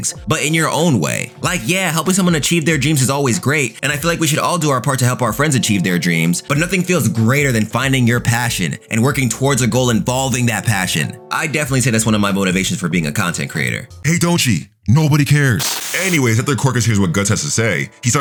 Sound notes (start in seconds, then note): 15.6 TV static running